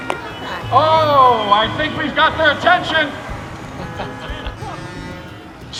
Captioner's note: horns honking; chuckles